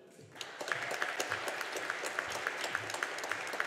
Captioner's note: audience applauding